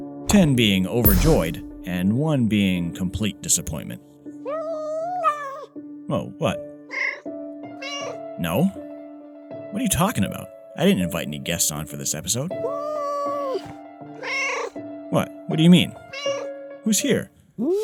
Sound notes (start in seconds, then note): 4.4 yowl; 16.0 meow